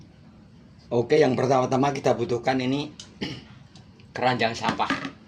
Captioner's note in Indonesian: berdehem